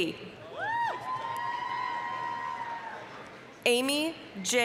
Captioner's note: applause, cheering